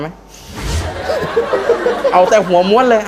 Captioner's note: laughing